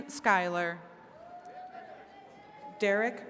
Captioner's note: attendees cheering